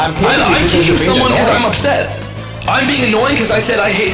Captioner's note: overlapping chatter